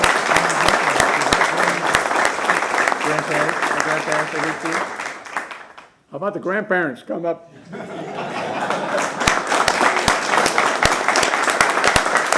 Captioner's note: applause